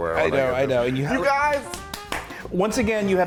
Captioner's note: claps